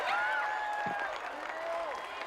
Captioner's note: chee arsnd applaeus